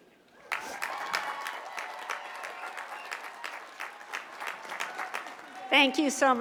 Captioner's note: cheers and applause